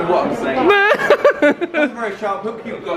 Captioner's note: laughing